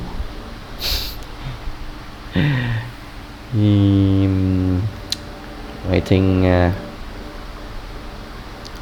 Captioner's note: laught